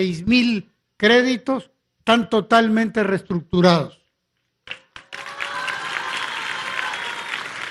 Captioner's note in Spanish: aplausos